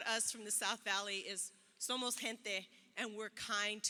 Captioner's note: speaks in foreign language